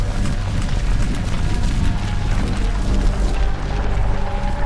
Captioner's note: volcano rumbling